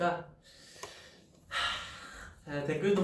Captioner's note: sigh